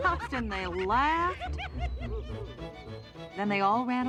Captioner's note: all laughing